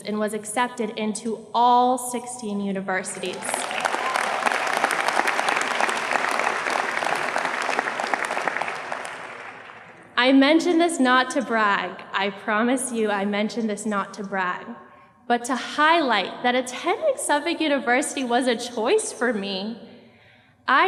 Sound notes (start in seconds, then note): 3.3 audience applauds